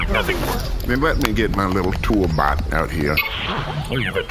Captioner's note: typing noises; shudders quietly